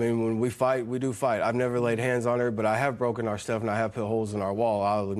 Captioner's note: none